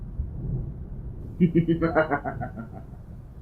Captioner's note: evil laugh